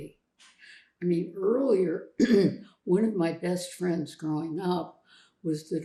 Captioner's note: clears throat